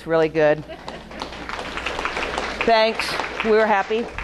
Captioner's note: audience applauding